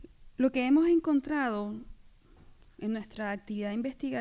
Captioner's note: speaking spanish